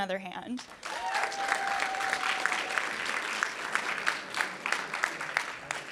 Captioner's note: audience cheering and applauding